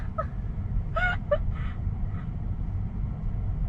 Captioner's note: laughing awkwardly